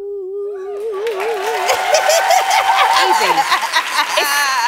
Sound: laughs

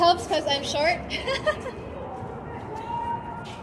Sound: laughs

